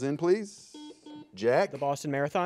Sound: buzzer buzzes

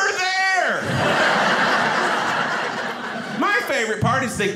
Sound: audience laughing

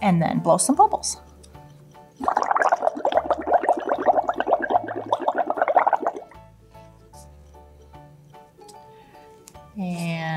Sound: bubbling sounds

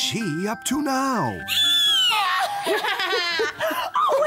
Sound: witchy cackle!

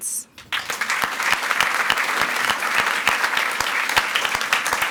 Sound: audience applauds

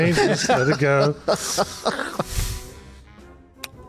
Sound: laughs

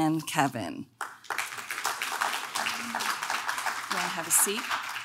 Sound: audience clapping

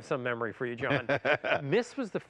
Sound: laughs

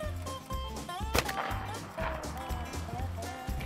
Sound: shot goes off; upbeat country music

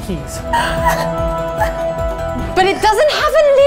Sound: crying

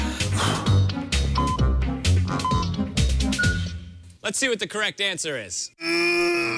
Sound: electronic beeping

